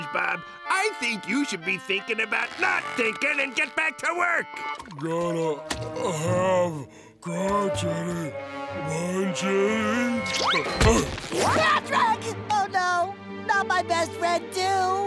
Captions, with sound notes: I think you should be thinking about not thinking and get back to work! Gotta... have... crunchity... munchities... [grunting] Patrick! Oh, no! Not my best friend, too!